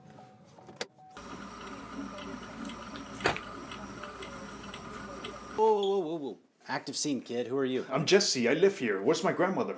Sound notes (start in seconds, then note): 1.3 the Police radio chatter and car lights now fill the air; 3.1 Car door slams shut as Jesse runs in a panic towards the house